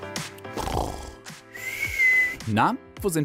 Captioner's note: he snores